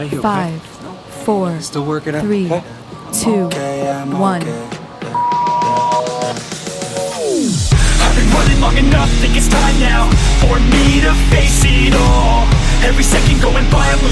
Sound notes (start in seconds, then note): 5.1 beep; 5.9 upbeat music